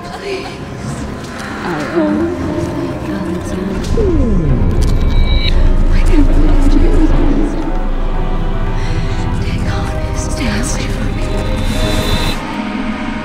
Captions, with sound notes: Please. (ghostly whispering) Dagon is master. Stay away from me.